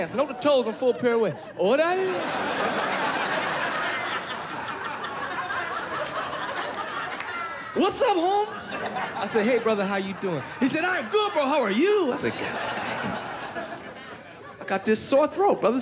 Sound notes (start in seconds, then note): 3.9 laughter